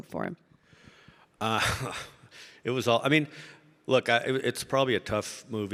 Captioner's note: chuckles